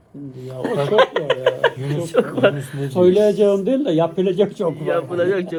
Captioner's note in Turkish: kahkaha